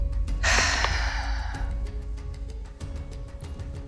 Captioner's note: sighs